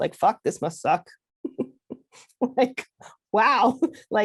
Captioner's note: laughs